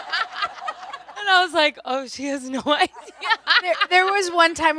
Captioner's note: everyone laughs; laughs